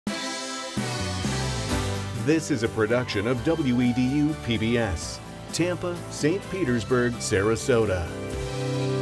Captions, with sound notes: (upbeat music) - [Male Voice] This is a production of WEDU PBS, Tampa, St. Petersburg Sarasota.